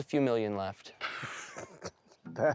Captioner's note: Baratunde laughs